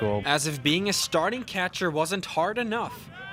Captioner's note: voiceover